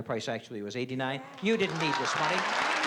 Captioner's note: applause